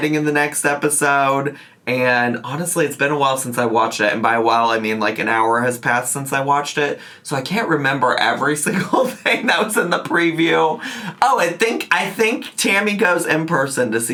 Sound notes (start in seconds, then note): 10.8 laughs